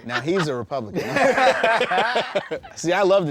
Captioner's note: laughter